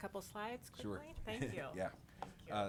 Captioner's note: chuckles